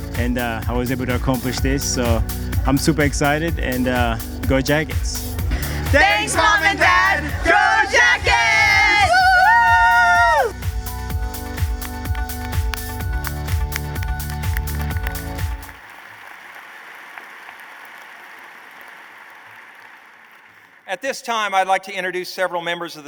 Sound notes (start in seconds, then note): 15.2 applause